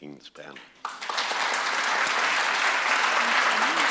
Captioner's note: audience claps